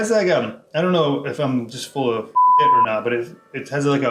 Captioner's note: beep